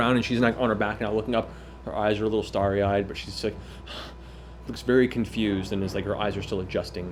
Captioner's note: panting